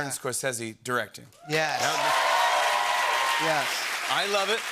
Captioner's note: cheers and applause